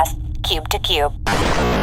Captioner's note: intro music; Throughout this entire episode, Bargie and C-53 speak in a loud, frantic tone